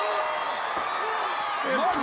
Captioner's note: crowd cheering